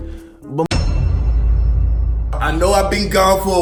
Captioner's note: echoing thud